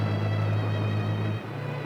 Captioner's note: tires screeching